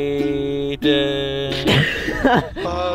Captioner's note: bursts out laughing